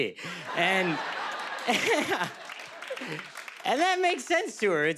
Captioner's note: laughter